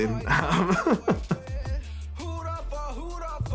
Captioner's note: laughs